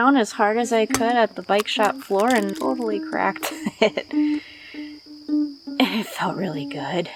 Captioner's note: laugh